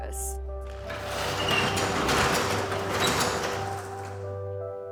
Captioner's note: door scrapes; peaceful music